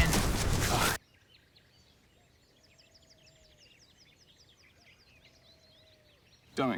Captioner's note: birds tweeting